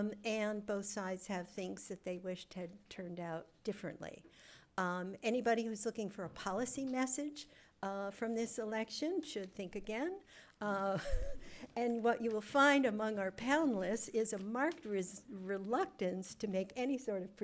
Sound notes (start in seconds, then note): 10.9 chuckles